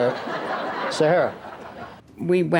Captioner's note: audience laughs